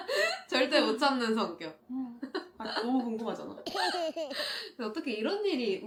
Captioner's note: laughter